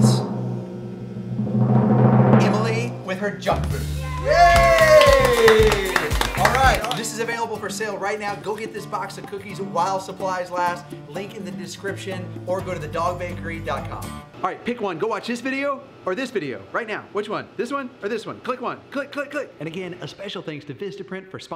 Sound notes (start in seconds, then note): 0.0 drum rolling; 4.1 clapping